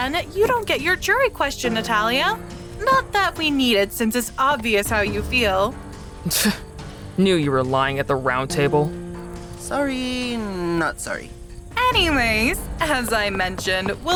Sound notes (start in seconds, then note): 5.9 scoffs